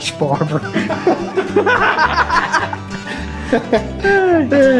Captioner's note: laughter